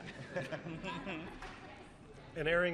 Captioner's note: laughter